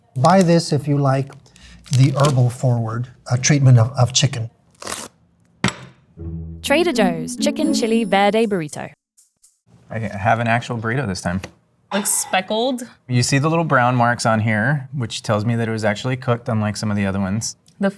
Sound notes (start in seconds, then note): 4.7 wrapper ripping; 4.8 burrito thumping